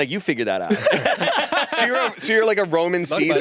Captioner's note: all laughing